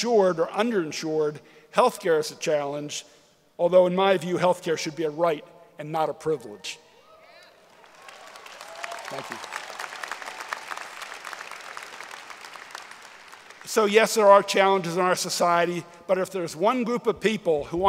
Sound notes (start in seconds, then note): 7.6 applause and Cheering; 10.4 applause